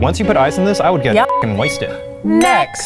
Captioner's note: beeps